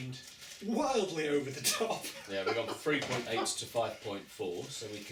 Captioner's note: laughter